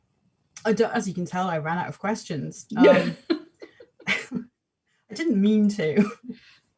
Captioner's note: laughs